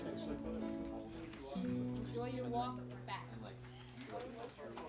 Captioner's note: crowd chatting